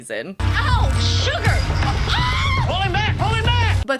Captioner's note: screams